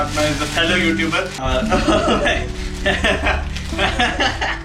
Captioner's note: laughter